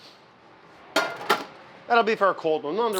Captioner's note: pan clatters